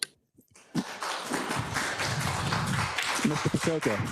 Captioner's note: attendees applauding